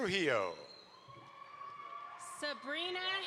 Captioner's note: audience applauds